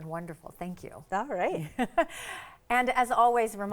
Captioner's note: laughs